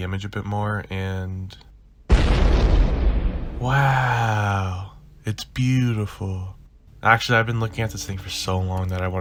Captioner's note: boom